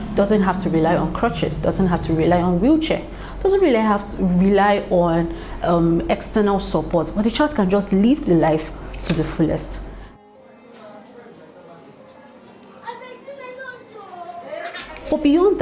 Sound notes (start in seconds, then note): 12.2 children's voices and laughter